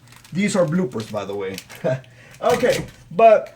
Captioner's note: laughing